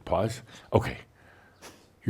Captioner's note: music stops